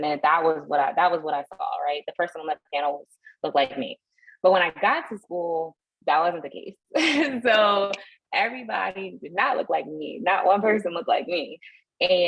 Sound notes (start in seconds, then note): 6.9 laughter